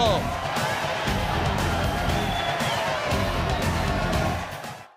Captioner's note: crowd cheering